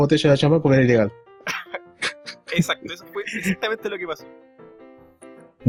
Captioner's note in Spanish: risas